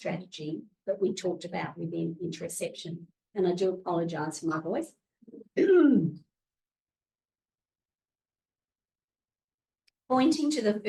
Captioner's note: muffled cough